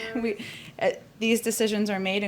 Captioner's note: laughs